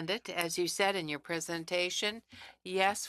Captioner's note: speaking French